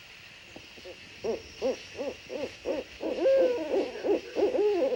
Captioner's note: owls hooting